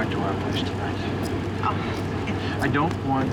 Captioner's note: laughs